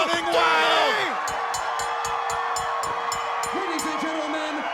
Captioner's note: bell rings